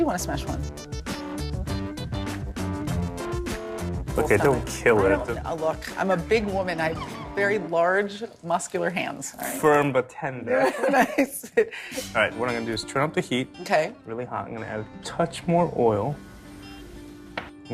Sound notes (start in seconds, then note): 10.6 chuckles